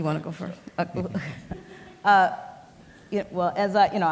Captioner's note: laughs